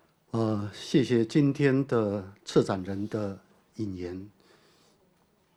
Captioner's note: Mandarin